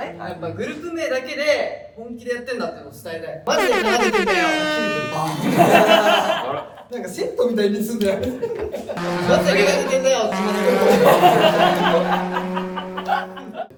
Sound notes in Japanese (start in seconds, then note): 5.5 笑い声; 9.0 バイク通過音; 11.0 笑い声